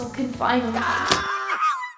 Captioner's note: Kirito screams